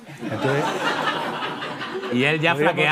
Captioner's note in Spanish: Risas